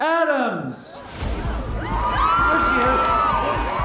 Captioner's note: cheering